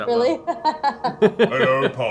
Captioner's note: laughs